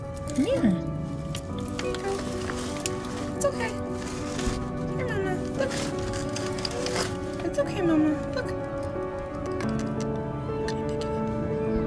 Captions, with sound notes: Come here. Here you go. It's okay. Here Mama. Look. It's okay Mama. Look. [Tongue clicks] Can I pick you up?